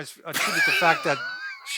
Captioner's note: laughs